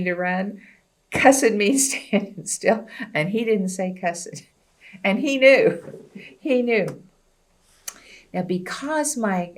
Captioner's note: laughs